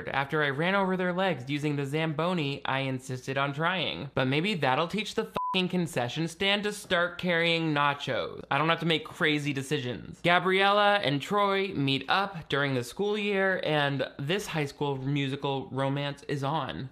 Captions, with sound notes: after I ran over their legs using the Zamboni I insisted on trying. But maybe that'll teach the (beep) concession stand to start carrying nachos. I don't have to make crazy decisions. Gabriella and Troy meet up during the school year and this "High School Musical" romance is on.